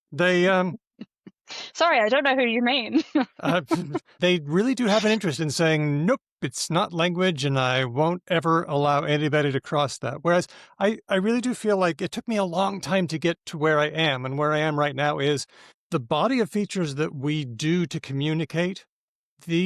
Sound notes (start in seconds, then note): 2.9 laughs